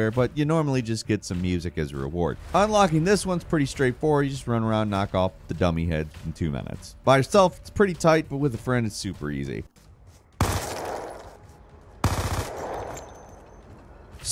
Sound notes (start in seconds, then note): 10.2 gun firing